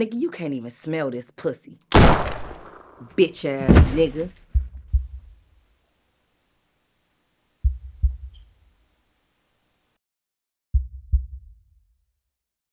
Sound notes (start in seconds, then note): 1.9 gun shoots; 7.6 heartbeat beating